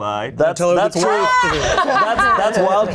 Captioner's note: group laughs